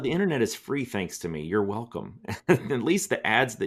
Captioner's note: laughs